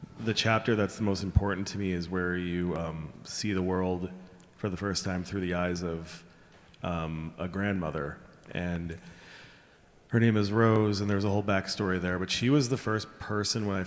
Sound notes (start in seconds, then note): none